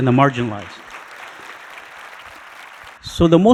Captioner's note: audience applauding